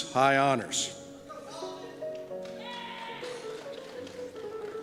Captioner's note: cheers